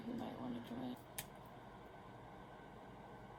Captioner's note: marker cap coming off marker noise